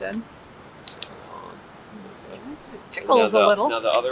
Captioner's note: hearing aids clicking